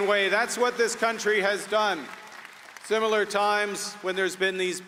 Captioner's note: applause